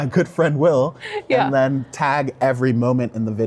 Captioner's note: both laughing